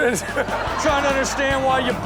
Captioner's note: crowd laughing